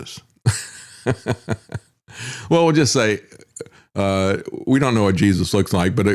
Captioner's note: laughs